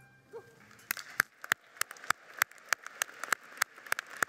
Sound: applauding

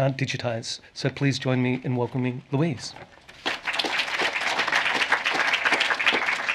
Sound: applause

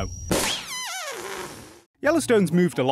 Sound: balloon deflating noise

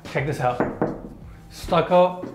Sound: wall knocks

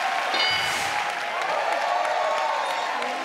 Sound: cheering; ding

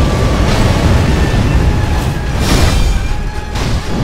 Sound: demonic roars

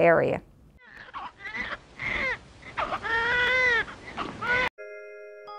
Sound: baby crying

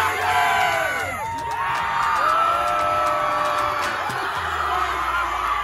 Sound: cheering

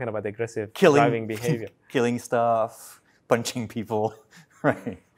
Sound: laughs

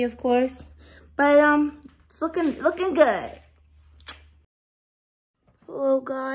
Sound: clicks tongue

